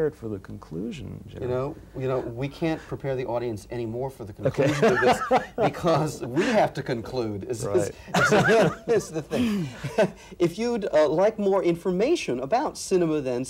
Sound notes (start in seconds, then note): 4.4 laughs; 7.9 chuckles